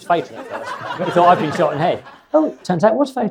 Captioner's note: audience laughs